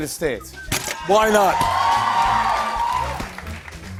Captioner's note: cheers and applause